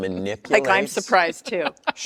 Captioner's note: laughs